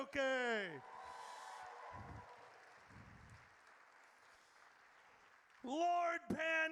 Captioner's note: audience cheers